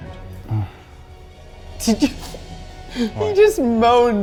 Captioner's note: moans softly